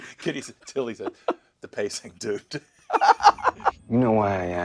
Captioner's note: laughing